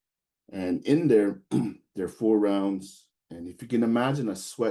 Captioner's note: clears throat